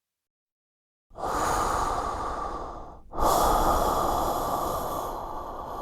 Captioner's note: breathing in respirator